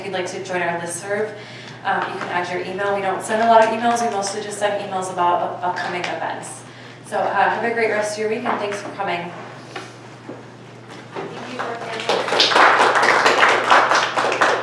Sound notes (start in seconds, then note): 11.3 applause